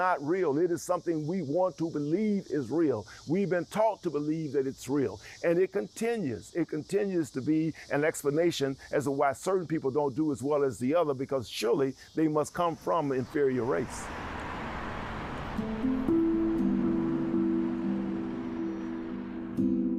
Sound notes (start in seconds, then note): 14.6 vehicles passing